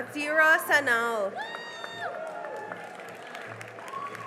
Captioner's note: cheering and applause